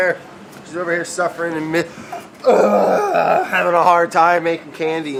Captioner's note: exasperated sigh